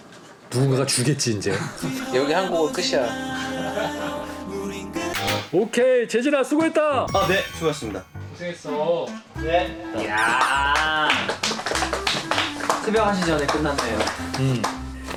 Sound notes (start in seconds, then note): 10.2 gives themselves applause